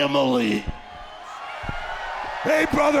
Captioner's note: audience cheers